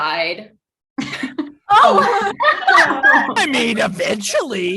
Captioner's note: group laughing